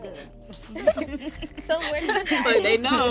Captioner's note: giggling